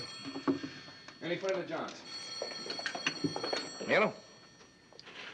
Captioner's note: telephone rings